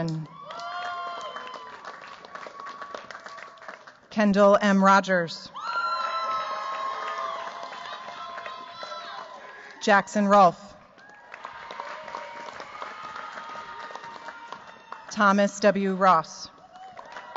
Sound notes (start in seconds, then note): 0.0 cheers, applause; 5.5 cheers, applause